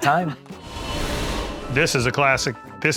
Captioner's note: graphic swooshes